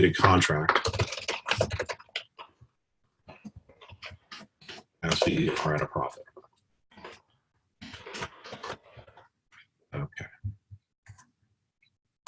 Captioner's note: typing Sounds